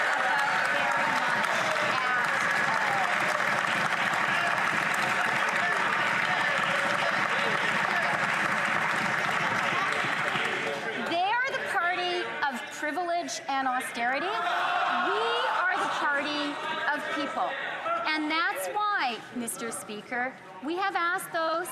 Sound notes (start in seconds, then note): 6.6 some Applause; 7.5 cheering